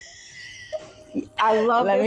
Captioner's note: both laughing